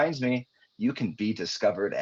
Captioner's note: chuckling